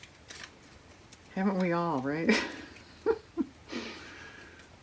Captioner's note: laughs